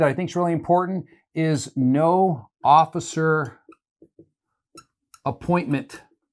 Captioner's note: marker squeaking